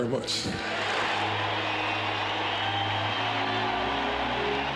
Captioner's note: cheers and applause; gentle orchestral music